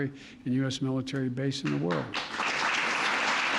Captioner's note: applause